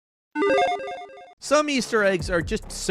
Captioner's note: electronic chiming